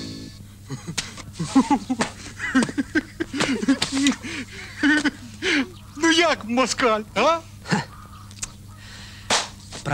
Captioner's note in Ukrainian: сміх